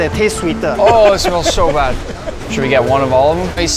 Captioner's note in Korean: 웃음